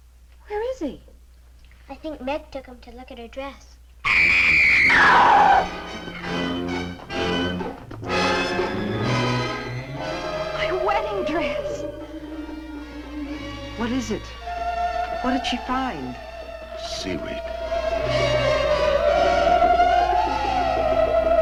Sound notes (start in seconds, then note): 4.0 Meg screaming; 4.8 suspenseful music; 11.9 eerie suspenseful music; 17.9 suspenseful music